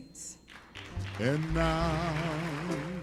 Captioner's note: crowd clapping